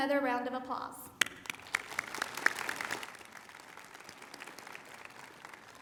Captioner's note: applause